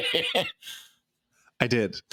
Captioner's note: laughing